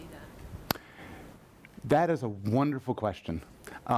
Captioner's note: voiceover